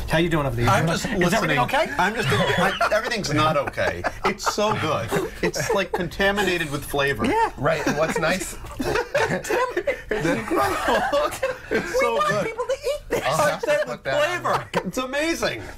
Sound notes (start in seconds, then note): 9.3 laughter